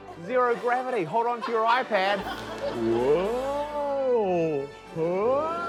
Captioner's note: laughter